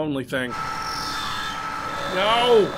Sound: loud air conduct noise

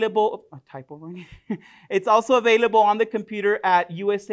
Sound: chuckles

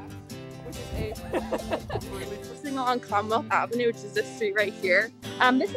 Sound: laugh

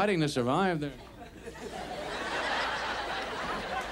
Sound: audience laughs

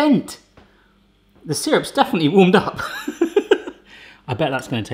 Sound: laughs

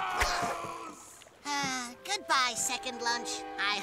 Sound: Buzz yelling in distance; sighs

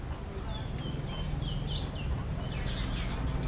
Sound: birds chirp

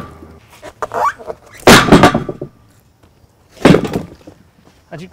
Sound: airplane engine humming

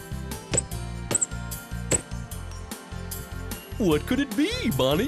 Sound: sound of a bouncing ball

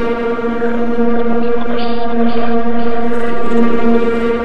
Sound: murmuring

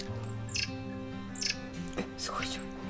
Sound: chirping

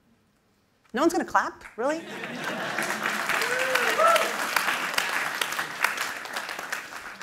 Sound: laughter and applause

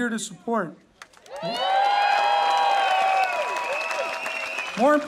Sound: audience cheering

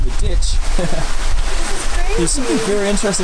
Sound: laughing

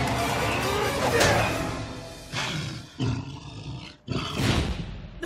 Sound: growling softly

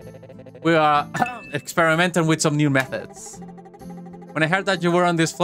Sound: fake cough

